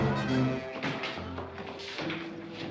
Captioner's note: doors bursting open